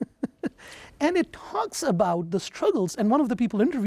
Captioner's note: laughing